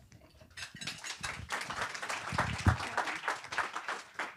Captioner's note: applause